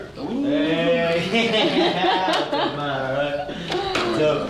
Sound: laughing

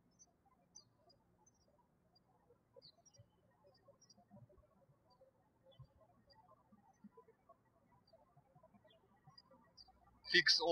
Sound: birds chirping

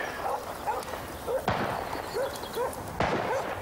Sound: gun firing; dog barking

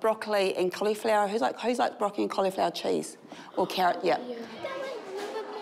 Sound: children murmur in agreement

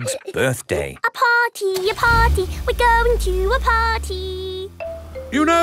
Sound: giggling; sing song voice

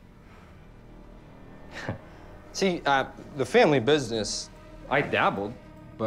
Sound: chuckles

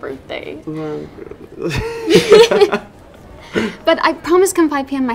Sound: both laugh

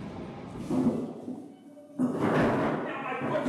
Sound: trash can rattles

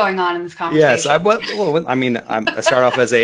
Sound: laughing

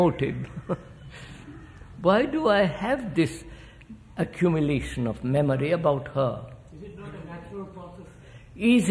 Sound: laughs

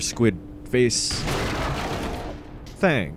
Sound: explosion

